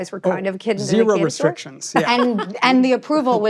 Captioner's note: laughing